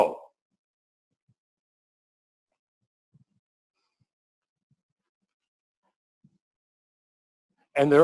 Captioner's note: pause